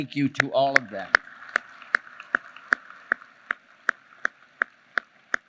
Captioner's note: applause